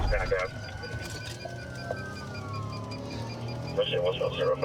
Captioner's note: sirens wailing